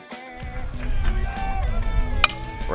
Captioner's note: bat hits ball